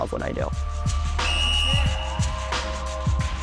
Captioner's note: extended whistle blow